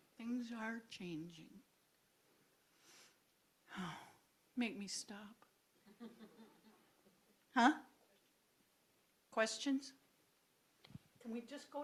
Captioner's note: sigh